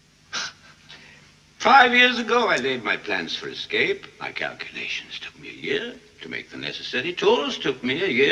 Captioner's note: heavy breathing